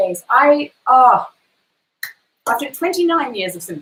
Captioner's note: hands clap